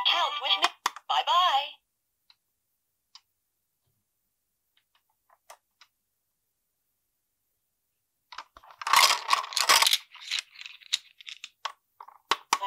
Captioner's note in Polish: cisza